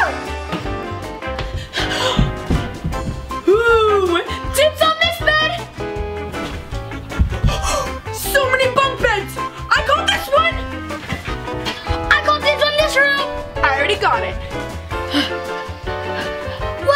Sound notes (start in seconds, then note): 0.2 playful music; 6.7 gasps; 14.9 sighs